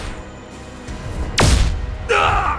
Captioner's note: blasting; wincing